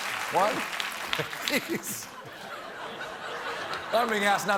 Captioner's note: laughter